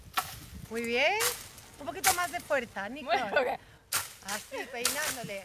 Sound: speaks in Spanish; laughs

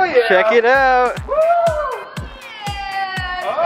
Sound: woman hollering in background

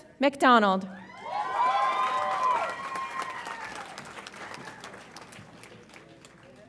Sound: audience applauds and cheers

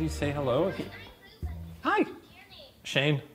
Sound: toy muttering

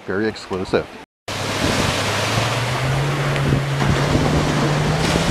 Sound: waves whooshing

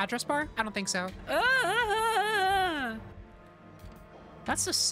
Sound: whining

